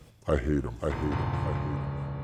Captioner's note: echoing